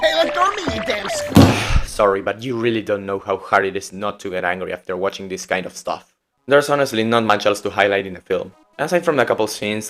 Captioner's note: hits the table